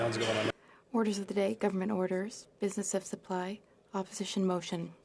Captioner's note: speaking French